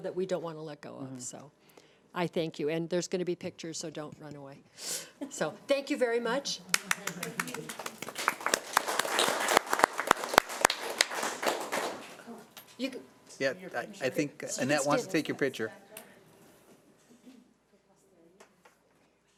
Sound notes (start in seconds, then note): 6.7 audience applauding